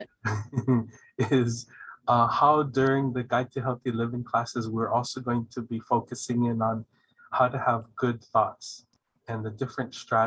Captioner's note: laughing